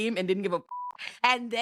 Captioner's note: beep